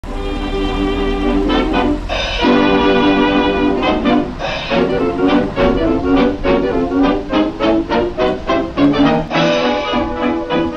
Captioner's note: engine sounds & jazzy music playing